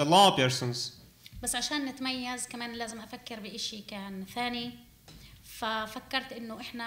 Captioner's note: speaking arabic